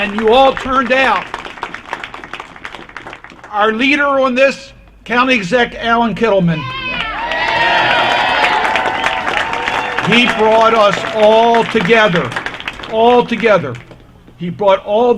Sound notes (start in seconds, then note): 7.2 applause